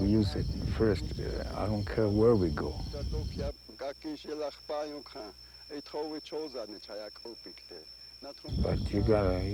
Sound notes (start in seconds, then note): 3.6 speaking in foreign language